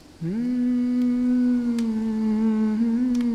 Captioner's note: humming a melody